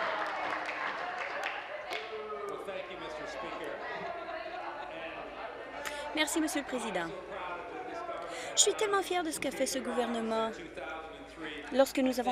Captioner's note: applause